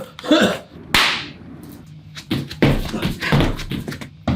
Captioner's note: coughing persistently; belly slap